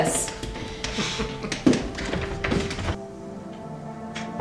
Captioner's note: man laughing